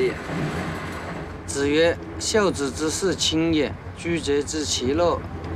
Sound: speaking Chinese

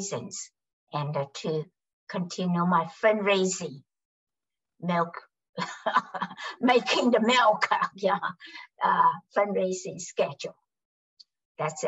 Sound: laughs

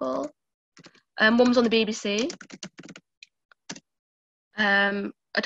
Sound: computer keys clicking

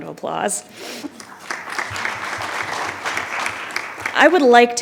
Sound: attendees clapping

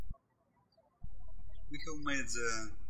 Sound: birds chirping

